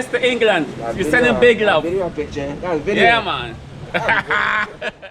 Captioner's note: laughing